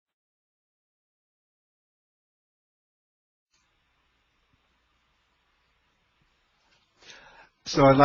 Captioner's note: silence